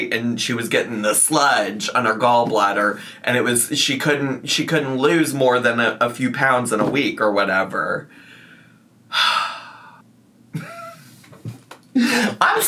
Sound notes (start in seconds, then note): 9.1 sighs; 12.0 laughs